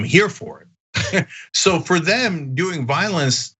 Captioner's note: laugh